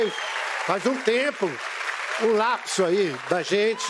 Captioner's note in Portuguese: aplausos